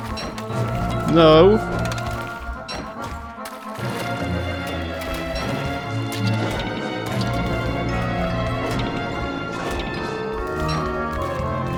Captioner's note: pirate monkey noises